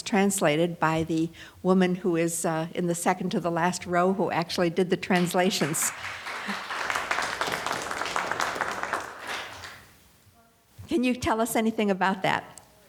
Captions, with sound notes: translated by the woman who is in the second to the last row, who actually did the translations. (audience applauding) Can you tell us anything about that?